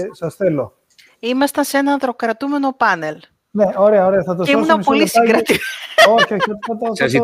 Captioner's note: γέλιο